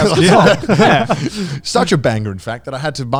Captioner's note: speakers laughing